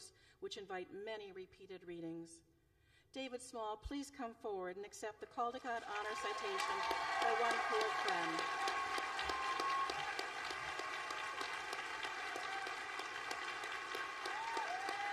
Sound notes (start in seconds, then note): 12.2 applause